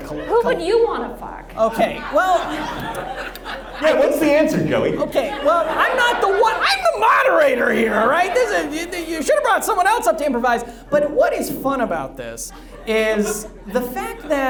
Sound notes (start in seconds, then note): 2.9 audience laughs